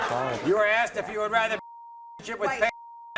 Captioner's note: beep